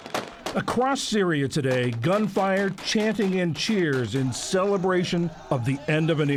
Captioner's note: voice-over